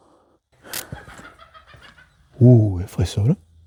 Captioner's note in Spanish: risas